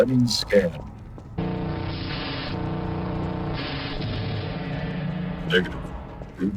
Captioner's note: harsh electronic sound